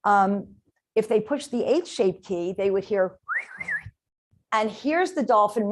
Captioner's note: whistle